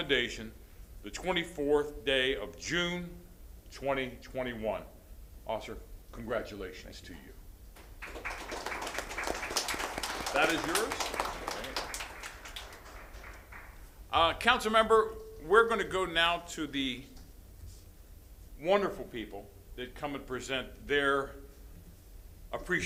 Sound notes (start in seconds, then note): 12.3 applause